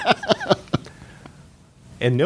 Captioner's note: laughter